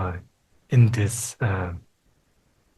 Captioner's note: speaking Tibetan